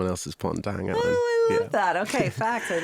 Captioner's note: laughing